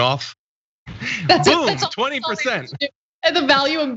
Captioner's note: laugh